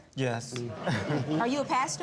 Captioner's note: audience laughing